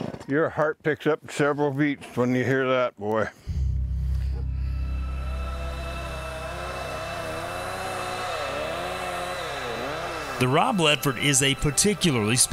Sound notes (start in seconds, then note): 3.5 dramatic music; 7.3 chainsaw whirs